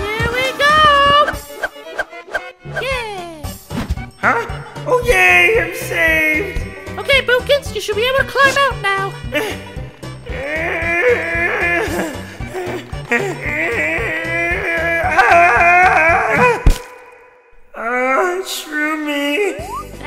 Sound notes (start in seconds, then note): 10.3 Boopkins grunts; 12.1 panting; 15.0 yelling